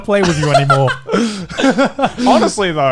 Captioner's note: laughs